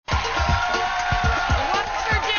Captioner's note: audience cheering